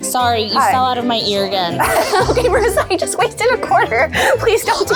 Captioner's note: laughs